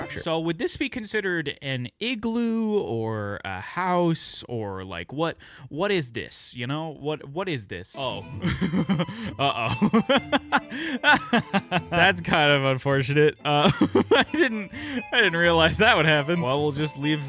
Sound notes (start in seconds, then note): 10.8 laughs